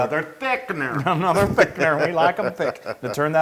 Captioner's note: laugh